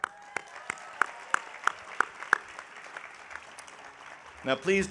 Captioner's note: audience applauding